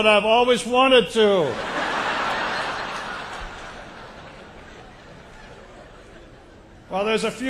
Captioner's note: laugher